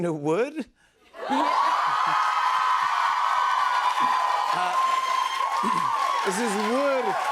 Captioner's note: cheers and applause